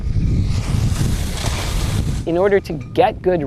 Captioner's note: skis slide